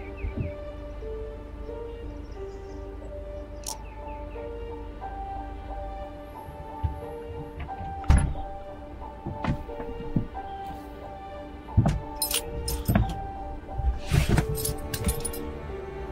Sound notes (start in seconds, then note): 0.2 birds chirping; 6.4 mysterious music continues; 14.2 keys jingling